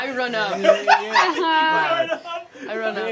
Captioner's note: laughing